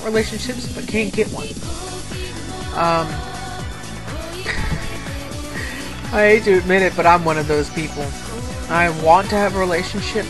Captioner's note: laugh